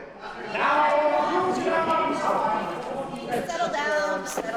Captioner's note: loud background chattering